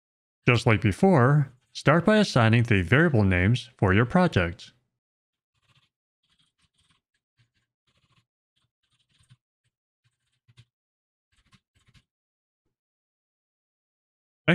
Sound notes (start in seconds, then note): none